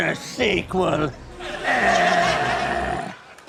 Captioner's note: groans; mimics explosion